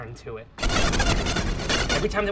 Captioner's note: pulsating harshly